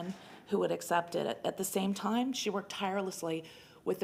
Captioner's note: none